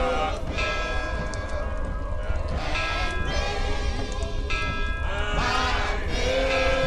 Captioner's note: bell chimes